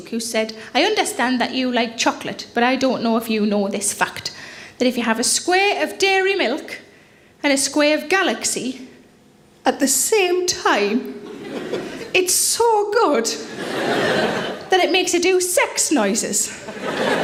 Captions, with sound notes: who said, "I understand that you like chocolate but I don't know if you know this fact. That if you have a square of Dairy Milk and a square of Galaxy at the same time, (audience laughing) it's so good that it makes you do sex noises."